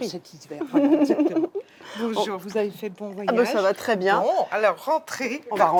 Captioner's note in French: rires